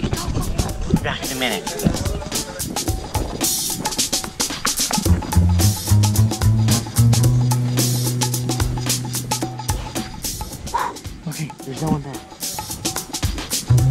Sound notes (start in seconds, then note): 2.8 suspenseful music; 10.7 sighs